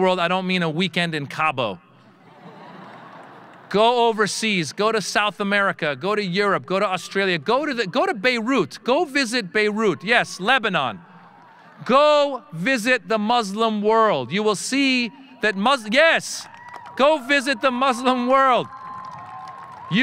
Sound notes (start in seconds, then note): 2.2 audience laughing; 16.3 audience cheering